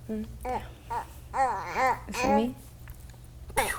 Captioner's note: baby cooing